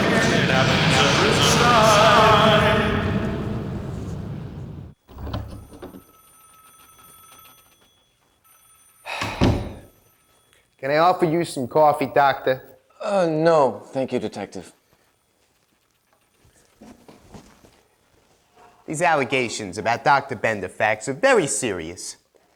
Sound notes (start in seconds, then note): 5.0 police station phones ring; 9.0 Detective sighs